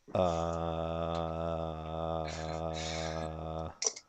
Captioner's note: groaning